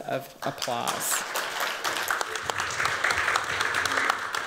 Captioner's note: applause